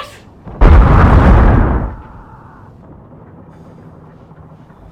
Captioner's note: explosion & Man Screaming